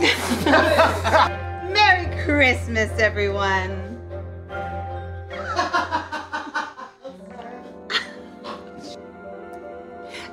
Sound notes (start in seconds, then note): 0.0 all laughing; 5.3 people laughing